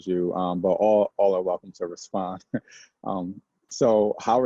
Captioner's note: laughs